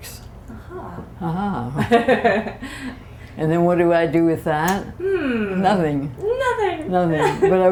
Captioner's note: laughter